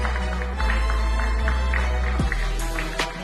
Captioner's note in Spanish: Aplausos